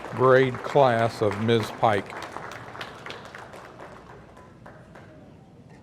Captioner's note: audience applauding